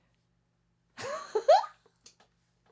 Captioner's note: chuckles